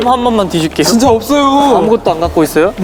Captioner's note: fumbling